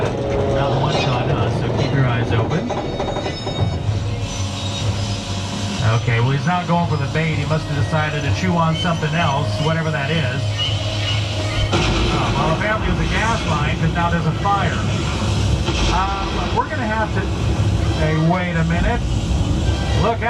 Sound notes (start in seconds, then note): 10.8 tense dramatic music; 12.1 fire whooshing